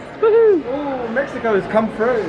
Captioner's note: jubilating